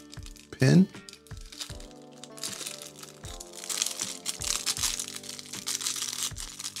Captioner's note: paper crinkling